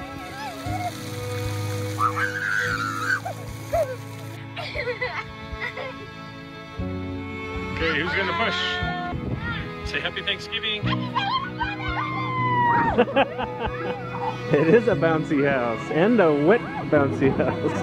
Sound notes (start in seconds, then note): 12.8 laughs